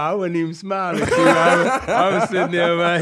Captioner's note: laughing